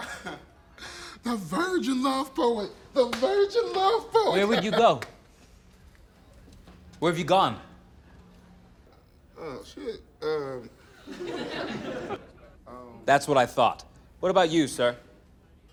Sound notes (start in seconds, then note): 0.0 laughs; 3.6 laughs; 10.9 laughter